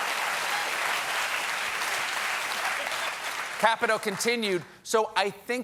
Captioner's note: applause